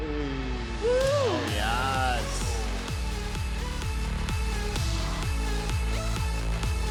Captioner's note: suspense music; upbeat music; group cheering